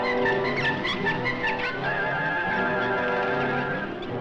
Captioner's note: monkey squeaking